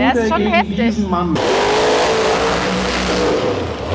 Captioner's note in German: Motorenheulen